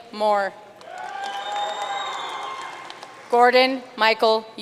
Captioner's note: audience cheering and applauding